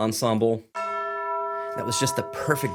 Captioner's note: bells toll